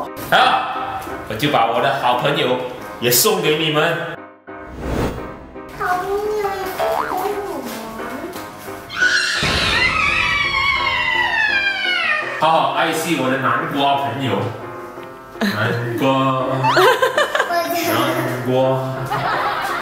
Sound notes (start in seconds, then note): 16.6 chuckling